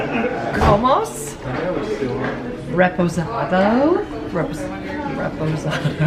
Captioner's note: reads haltingly in foreign language